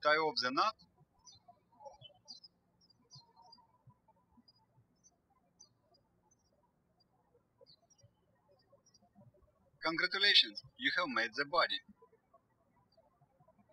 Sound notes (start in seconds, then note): 2.6 birds chirping; 13.4 birds chirping